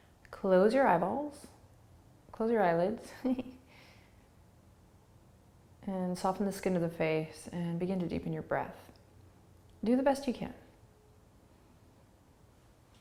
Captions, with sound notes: Close your eyeballs. Close your eyelids. (giggling) And soften the skin of the face. And begin to deepen your breath. Do the best you can.